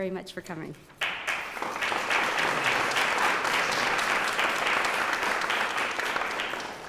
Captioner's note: applause